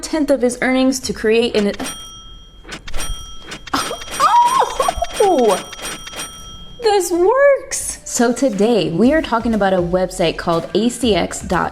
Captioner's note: cha-ching again; a lot of money cha-chings